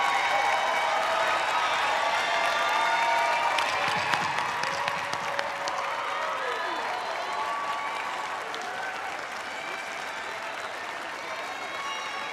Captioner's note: cheers and applause